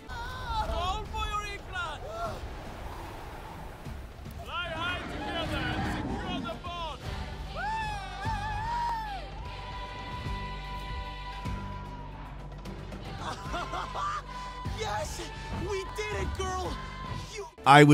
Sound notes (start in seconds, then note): 7.9 bright music; 7.9 character cheering